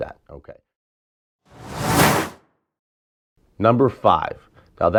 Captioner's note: logo flipping